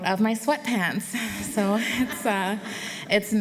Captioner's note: laughter